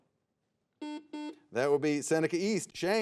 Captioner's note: buzzer beeps